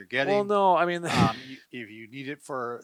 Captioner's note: sighs